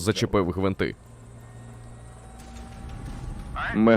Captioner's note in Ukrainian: гурчання ло́патей вертольота